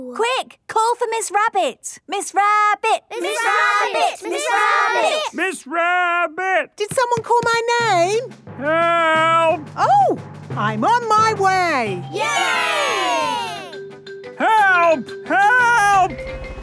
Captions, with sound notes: - Quick! Call for Miss Rabbit! Miss Rabbit! - (all chanting) Miss Rabbit! - Miss Rabbit! - Did someone call my name?! - Help!! - Oh! I'm on my way! - (crowd cheering) Yay!!! - Help! Help!